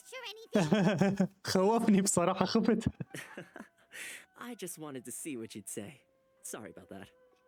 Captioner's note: laughs